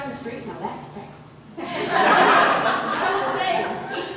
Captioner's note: audience laughter